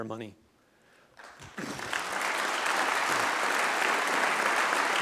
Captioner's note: applause